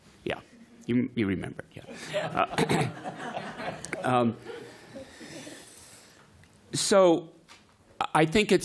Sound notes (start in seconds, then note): 1.9 laughter